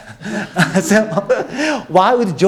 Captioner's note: all laughing